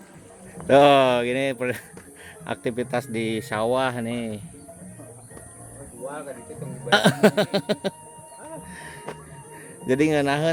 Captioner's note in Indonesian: tertawa